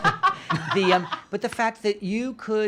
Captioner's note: laughing